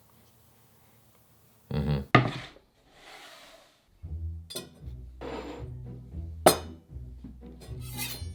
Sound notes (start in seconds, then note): 2.9 board sliding